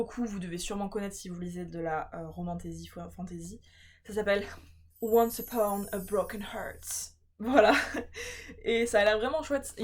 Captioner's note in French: rires